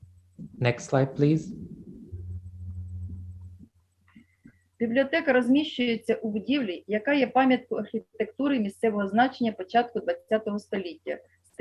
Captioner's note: foreign Language